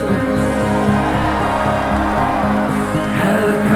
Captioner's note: crowd cheers